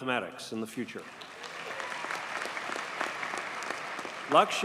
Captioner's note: audience cheers and applauds